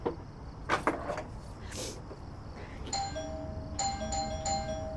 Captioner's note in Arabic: رنين جرس الباب